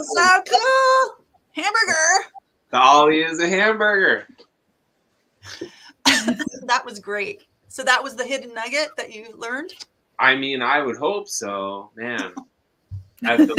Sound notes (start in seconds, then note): 6.0 coughs; 13.2 laughs